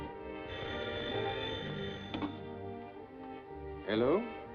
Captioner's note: phone ringing